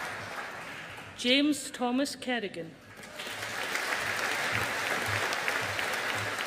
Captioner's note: audience applauding